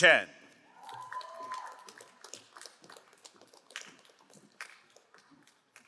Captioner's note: crowd cheering and applauding